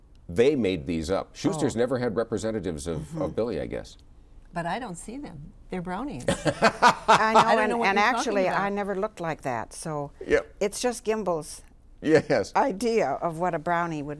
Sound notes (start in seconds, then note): 6.3 laughs